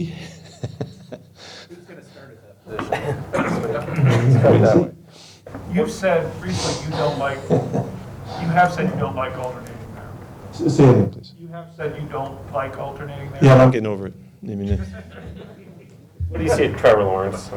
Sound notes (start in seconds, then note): 0.0 laughing; 14.4 laughing